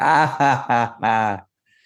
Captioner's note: laughing